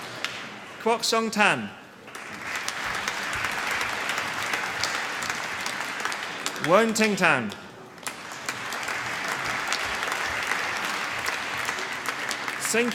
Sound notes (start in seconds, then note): 2.0 applause